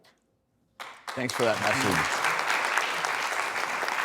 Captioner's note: applause